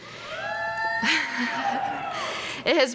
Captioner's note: students cheering